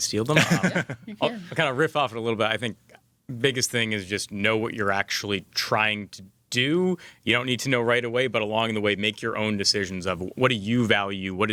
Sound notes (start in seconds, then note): 0.3 laughs